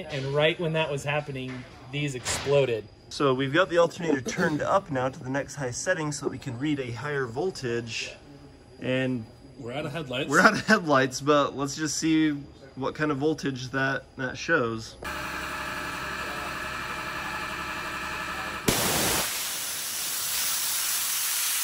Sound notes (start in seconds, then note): 15.0 machine running; 18.6 water jet shoots